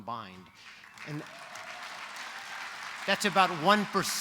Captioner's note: applause